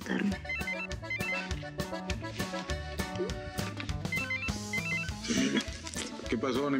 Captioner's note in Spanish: suena un celular